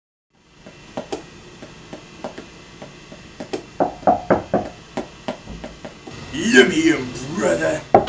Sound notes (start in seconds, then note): 1.1 finger Drumming; 3.8 knocking on the door